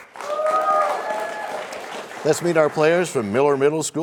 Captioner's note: cheers and applause